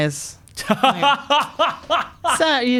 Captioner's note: laughing